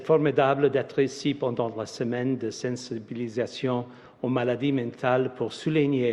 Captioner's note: speaks French